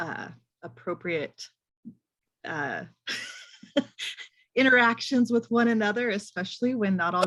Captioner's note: laughs